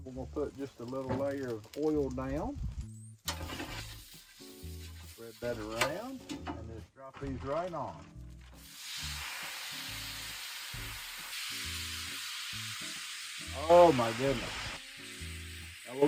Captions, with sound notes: And we're gonna put just a little layer of oil down. (griddle sizzling) Spread that around, and just drop these right on. (vegetables and oil sizzling) Oh my goodness. (griddle sizzling)